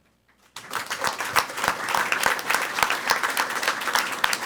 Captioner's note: people clapping